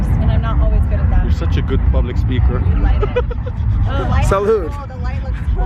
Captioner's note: laughs